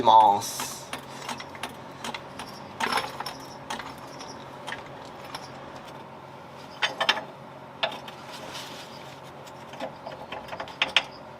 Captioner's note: working sound